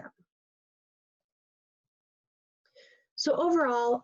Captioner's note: pause